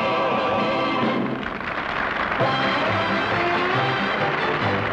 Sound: audience applauds

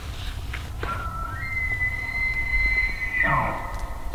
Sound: elk bugling

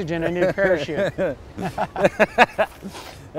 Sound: laughs

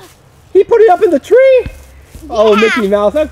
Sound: voiceover

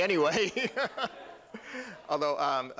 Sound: laughter

